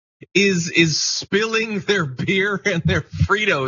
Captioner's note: laugh